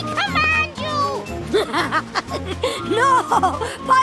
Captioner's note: Piggley laughs